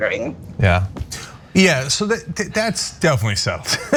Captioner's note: laugh